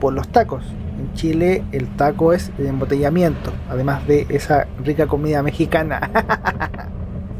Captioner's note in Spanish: risas